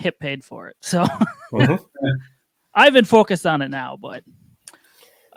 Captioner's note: laughs